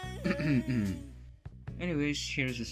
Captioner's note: cough